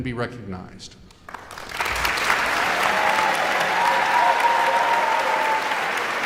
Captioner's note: audience applauding and cheering